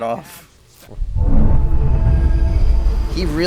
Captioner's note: ethereal, rumbling sounds